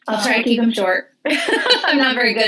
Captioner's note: laughing